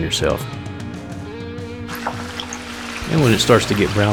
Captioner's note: oil splattering